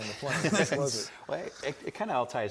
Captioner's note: laughing